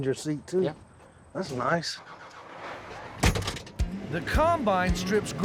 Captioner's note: closes door